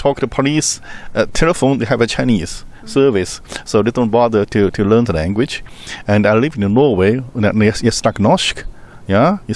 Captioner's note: speaks Norwegian here